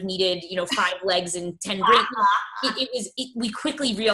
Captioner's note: laughs